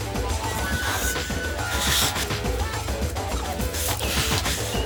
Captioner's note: Gary panting